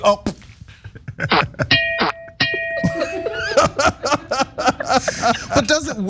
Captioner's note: laugh